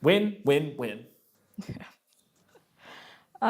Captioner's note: laughs